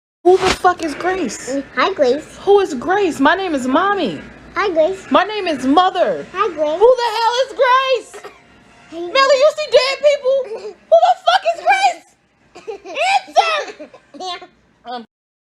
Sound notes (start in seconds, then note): 12.5 giggling; 12.6 baby giggling